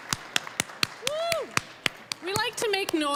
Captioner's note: applause